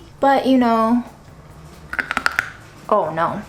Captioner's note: crackling sound